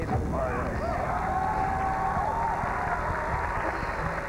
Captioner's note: cheers and applause